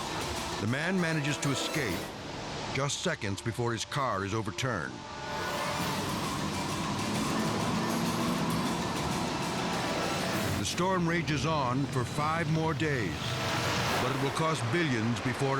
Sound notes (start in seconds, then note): 5.6 torrent rumbling